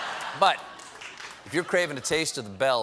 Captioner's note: laughter